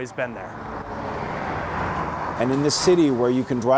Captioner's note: car engine roaring